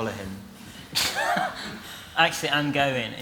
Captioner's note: he laughs